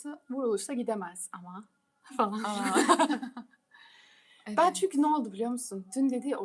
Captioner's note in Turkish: kahkaha